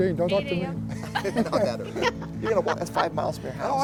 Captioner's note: laughs